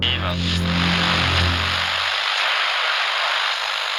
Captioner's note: camera buzzing